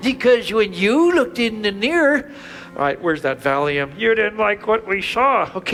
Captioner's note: none